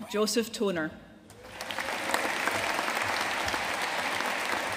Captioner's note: audience applauding